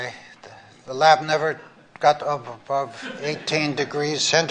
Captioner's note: laughter